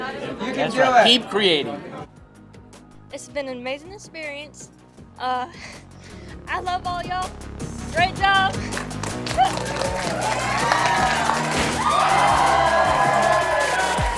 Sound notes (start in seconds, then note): 9.2 audience cheering